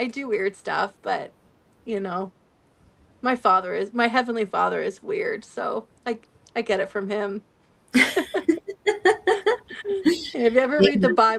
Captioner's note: laughter